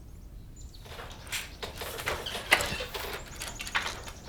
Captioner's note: loom whirs